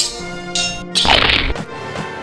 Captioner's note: swords and spears clanging; Crunch